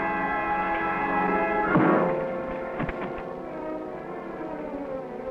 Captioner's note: bat thuds